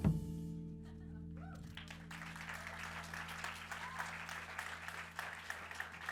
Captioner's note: audience applauds and cheers